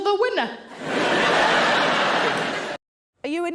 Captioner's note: audience laughing